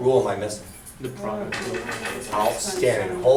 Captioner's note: voiceover